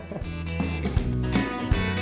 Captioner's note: laughing; country music